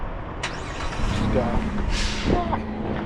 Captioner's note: car starts